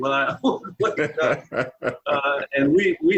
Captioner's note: laughing